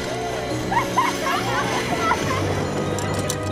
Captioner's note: laughing